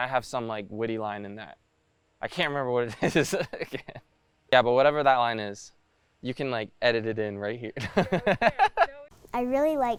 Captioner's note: laughs